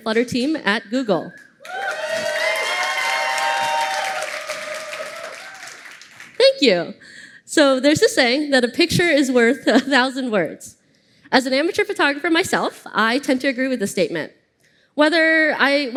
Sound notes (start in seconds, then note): 1.6 applause